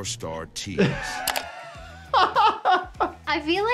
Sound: doctor laughing

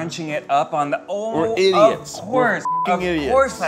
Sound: beep

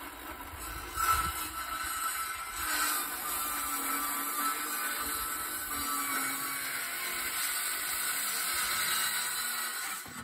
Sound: circular saw sound

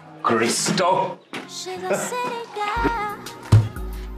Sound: chuckles

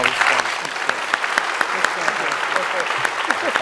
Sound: applause

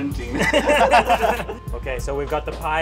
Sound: laughing

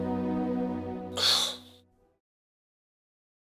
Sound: cough

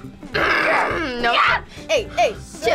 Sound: screams

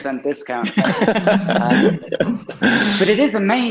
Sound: they all laugh

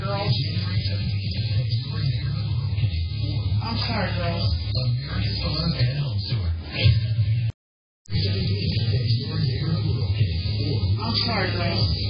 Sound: TV plays in background

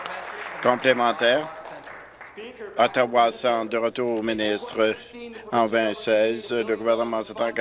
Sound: applause

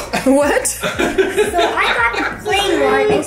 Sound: laughs

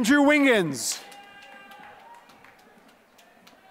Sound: applause

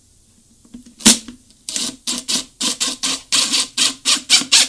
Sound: drill running

